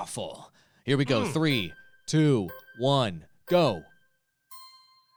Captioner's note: melodic timer